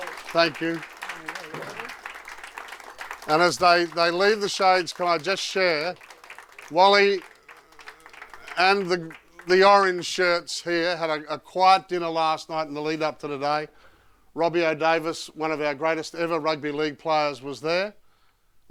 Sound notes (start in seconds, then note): 1.0 audience applauding